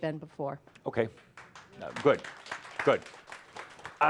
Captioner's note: some applause